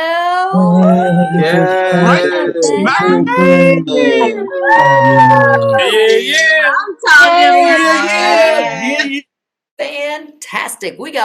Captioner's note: cheering